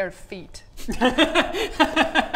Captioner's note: laughs